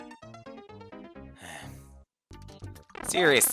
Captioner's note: sigh